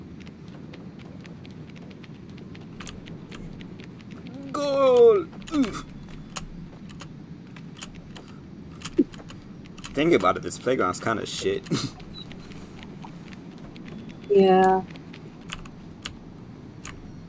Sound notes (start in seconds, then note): 4.3 grunts like he's a ball slamming into the fence; 11.5 laughs